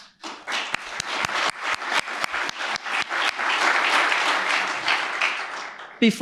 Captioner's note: applause